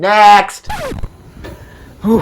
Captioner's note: record scratch